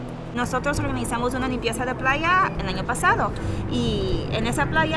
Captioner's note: speaking in foreign language